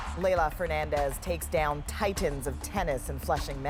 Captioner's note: cheers and Applause